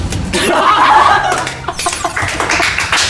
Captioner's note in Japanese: 爆笑; 拍手